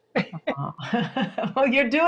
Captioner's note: laughing